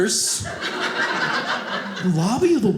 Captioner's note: audience laughing